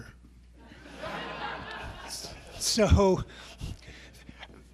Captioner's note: audience laughing